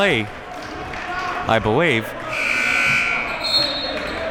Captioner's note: buzzer sounding